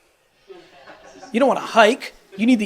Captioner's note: audience laughs